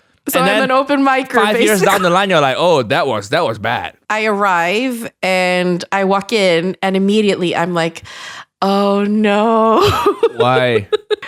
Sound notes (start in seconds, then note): 1.3 laughs; 9.8 chuckles